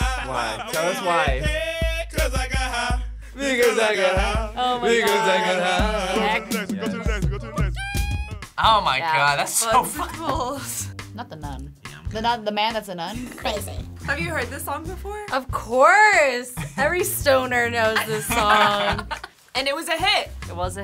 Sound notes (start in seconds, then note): 10.9 laughs; 16.1 laughs